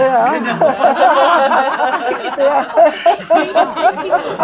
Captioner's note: laughs